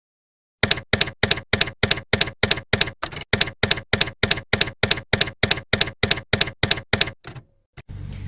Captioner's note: typewriter keys clacking